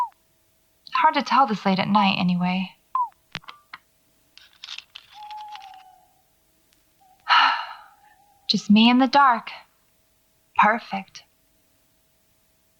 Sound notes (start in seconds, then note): 5.1 bird noise in distance; 5.2 beeping stops; 7.2 sigh